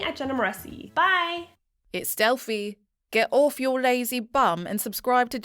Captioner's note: confident Female Voice